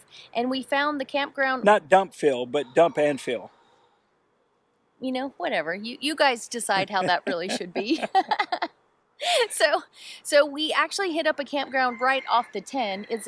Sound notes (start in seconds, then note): 8.3 both laugh